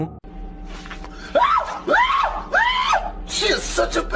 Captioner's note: yelling